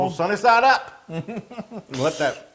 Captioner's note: laugh